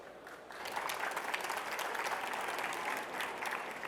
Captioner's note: applause